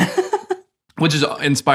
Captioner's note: laughing